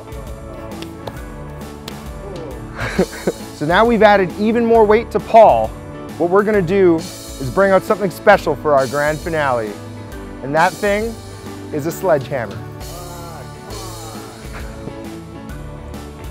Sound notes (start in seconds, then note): 2.3 chuckles